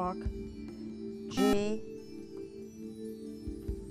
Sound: buzzer

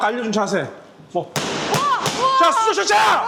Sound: pow!

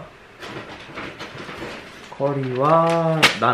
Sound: crumbling

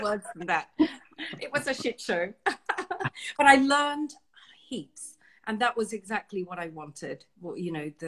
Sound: laughs

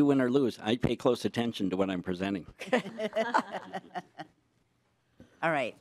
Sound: laughing

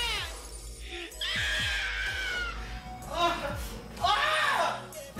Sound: Crystal screaming

